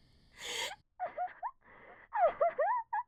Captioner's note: MEGUMI cries